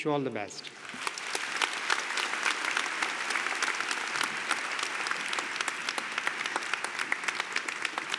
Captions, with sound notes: Wish you all the best. [APPLAUSE]